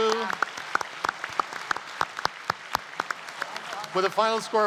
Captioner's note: applause